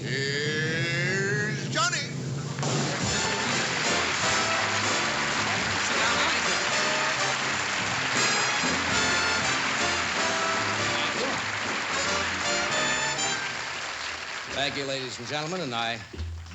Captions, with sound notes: here's Johnny. [APPLAUSE] Sit down, Donny. Thank you. Thank you, ladies and gentlemen, and I